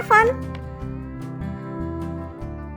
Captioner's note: cartoon voice